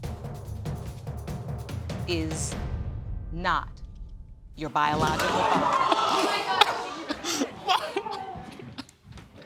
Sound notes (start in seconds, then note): 5.4 audience gasping; 5.5 sobbing